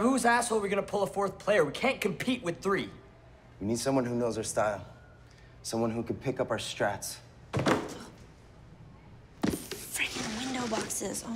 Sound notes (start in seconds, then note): 7.5 box dropping